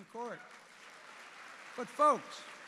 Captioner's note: applause